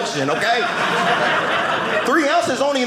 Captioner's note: audience laughing